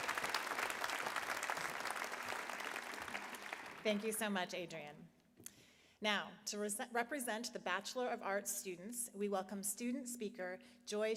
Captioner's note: applause